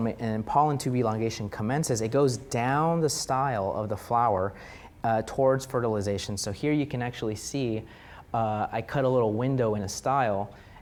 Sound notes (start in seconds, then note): none